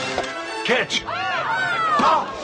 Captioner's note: screams